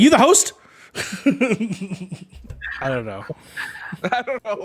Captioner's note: laughs